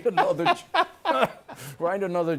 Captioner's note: laughter